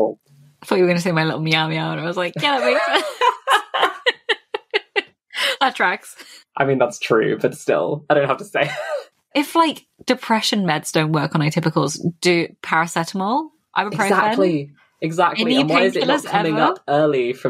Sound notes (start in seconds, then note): 2.2 laughing; 2.2 laughs